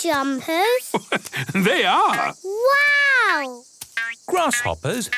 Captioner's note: laugh